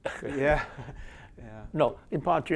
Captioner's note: chuckles